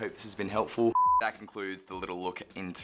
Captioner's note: beeps